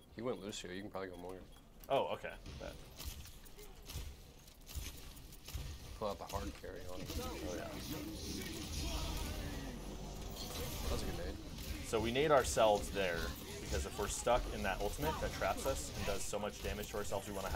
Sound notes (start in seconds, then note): 3.3 gun shots; 7.8 shouting foreign language